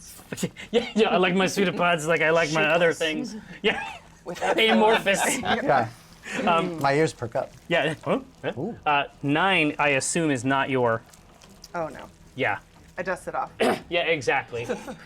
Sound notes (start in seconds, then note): 0.5 laughs; 7.5 noises of interest